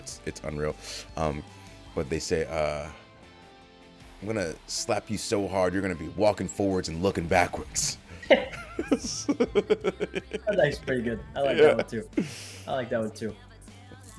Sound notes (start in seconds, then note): 8.2 laugh